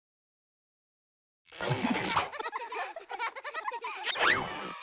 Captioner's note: children laughing